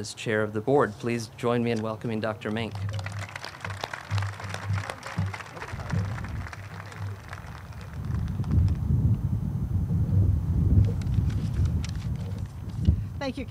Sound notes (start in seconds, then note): 5.3 group claps